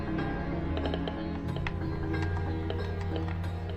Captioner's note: device crackling